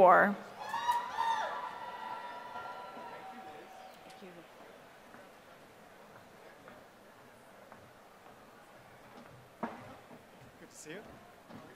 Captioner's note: applause